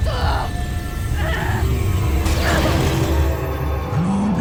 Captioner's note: growls; reverberating chimes